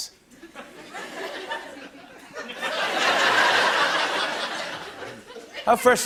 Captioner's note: laughter